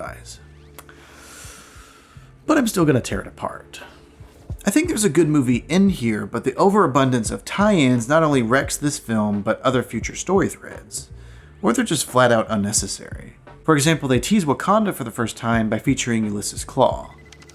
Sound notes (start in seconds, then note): 0.8 inhales